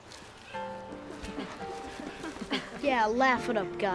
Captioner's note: laughing